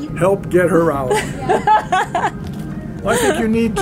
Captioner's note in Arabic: يضحك